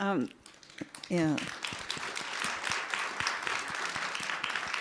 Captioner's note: participants clap